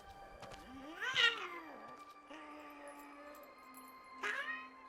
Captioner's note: tense pensive music; Giree grumbles